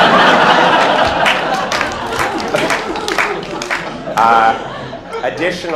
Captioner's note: laughter